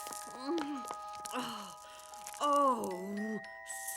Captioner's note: sighing